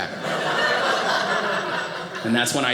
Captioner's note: audience laughing